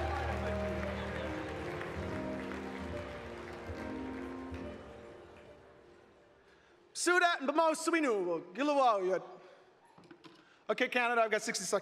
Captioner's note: cheering and Applause